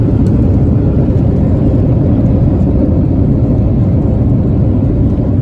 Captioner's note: airplane decelerates